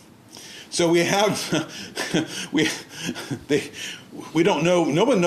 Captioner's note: laughing